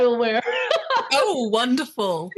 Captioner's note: laughing